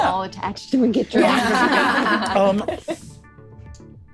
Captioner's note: laughing